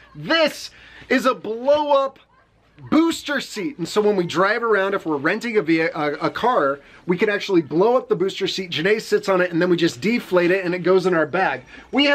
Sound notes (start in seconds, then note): none